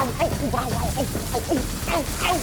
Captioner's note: grunting